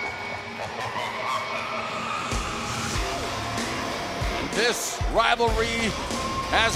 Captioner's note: evil laughter